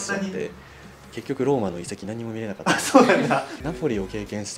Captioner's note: laughs